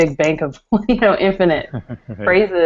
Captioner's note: laughter